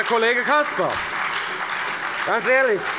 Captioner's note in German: Heiterkeit und Beifall bei der FDP